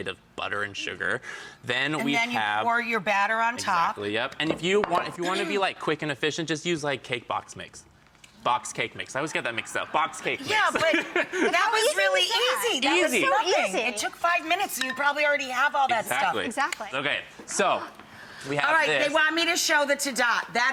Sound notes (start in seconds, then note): 10.5 laughs